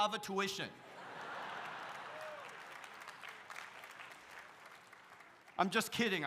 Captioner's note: audience laughs; audience cheering